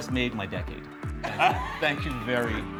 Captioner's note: laughing